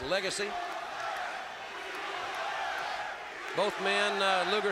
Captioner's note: crowd cheering